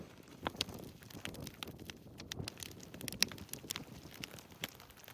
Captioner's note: fire crackling continues